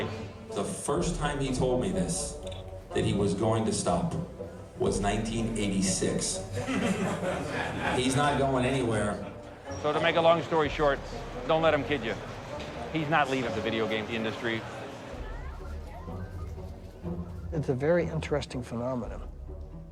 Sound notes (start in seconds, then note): 6.6 crowd laughs